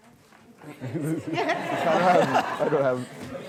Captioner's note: guests laughing